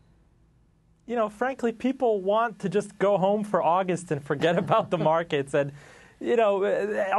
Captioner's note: laughter